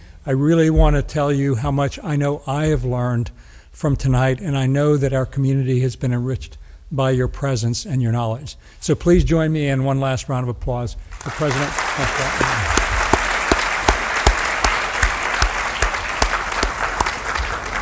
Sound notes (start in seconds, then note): 12.6 audience applauds